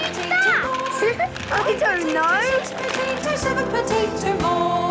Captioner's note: laughing